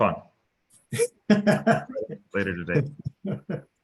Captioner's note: laughs